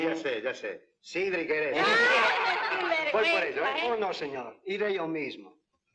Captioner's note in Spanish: Risas